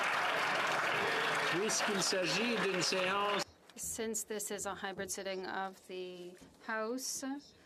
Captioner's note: applause